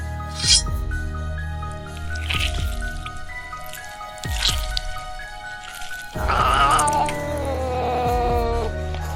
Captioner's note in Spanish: Sonido de sangre